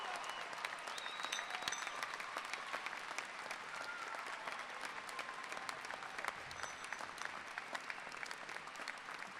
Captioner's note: cheers and Applause